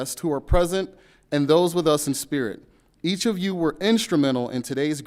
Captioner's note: none